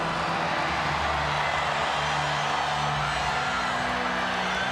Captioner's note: audience cheering